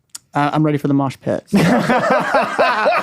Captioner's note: laughing